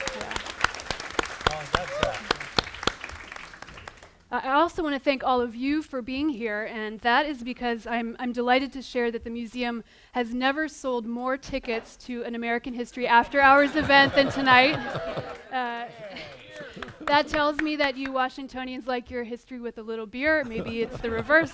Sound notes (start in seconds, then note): 0.0 applause; 14.2 cheering